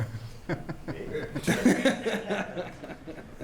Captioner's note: laughter